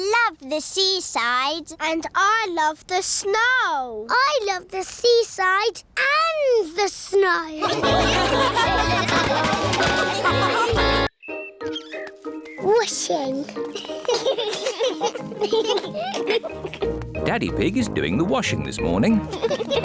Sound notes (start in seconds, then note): 7.6 laughter; 13.6 children giggling